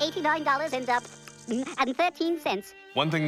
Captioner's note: electricity crackling